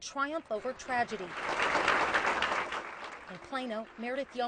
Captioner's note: audience applauding